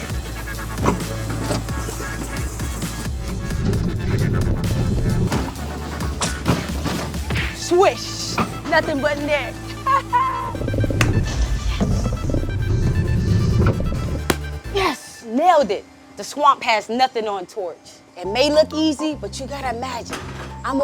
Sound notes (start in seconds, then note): 0.1 upbeat music; 7.0 basketball falling through rim and net; 9.6 laughing; 12.7 basketball falling through rim and net